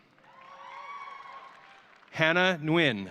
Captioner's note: audience cheering